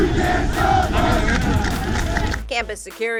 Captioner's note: rhythmic clapping